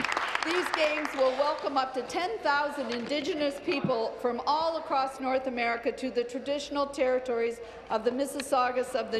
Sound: applause

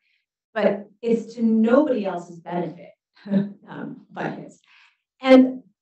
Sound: chuckles

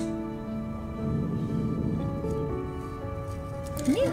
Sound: growl

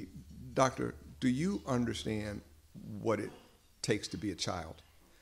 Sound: none

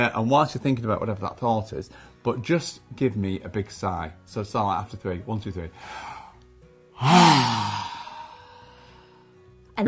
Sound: sigh

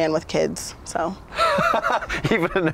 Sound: laughs

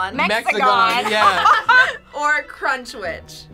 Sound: laughing

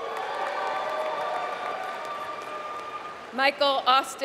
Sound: applause

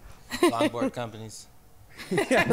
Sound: laughing

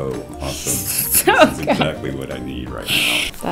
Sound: laughs

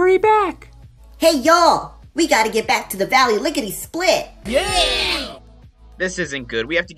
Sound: cheers from the crowd

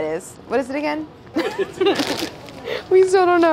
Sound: laughs

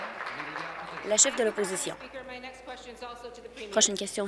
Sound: applause

